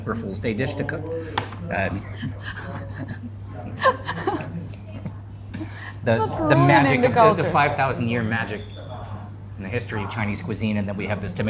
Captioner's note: laughing